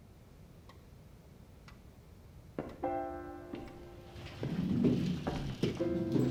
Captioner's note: clock ticking